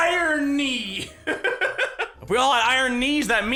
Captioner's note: giggles